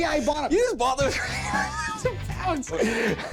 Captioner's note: wheezing